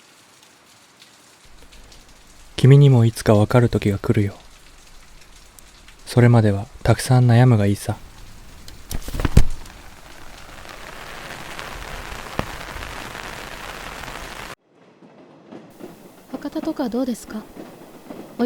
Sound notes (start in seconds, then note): 8.6 umbrella opening